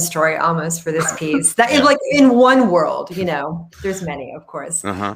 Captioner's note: laughing